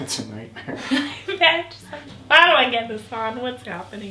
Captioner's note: chuckles; laughs